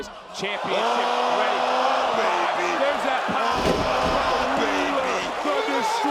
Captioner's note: audience cheering